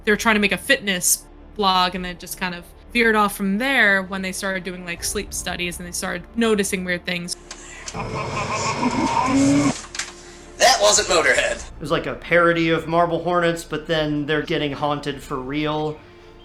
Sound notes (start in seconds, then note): 7.5 strange radio noises